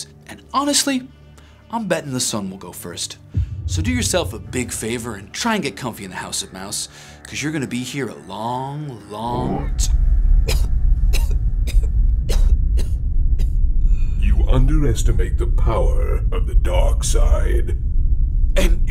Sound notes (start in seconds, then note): 10.5 coughing